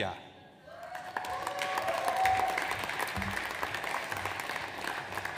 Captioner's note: audience applauds